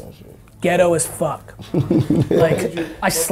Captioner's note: laughing